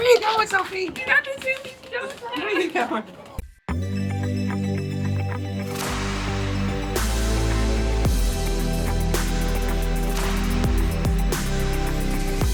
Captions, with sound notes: Where are you going, Sophie? (group chattering) (upbeat music)